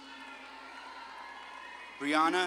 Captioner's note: audience claps and cheers